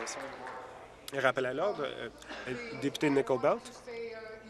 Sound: applause

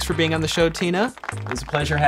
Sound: applause

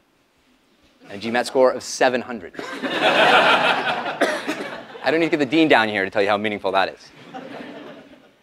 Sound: laugh; laugh

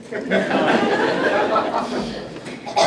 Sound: laughing

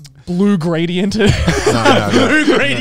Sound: everyone laughs

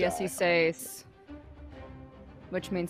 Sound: speaking in foreign language

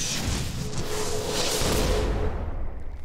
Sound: whoosh

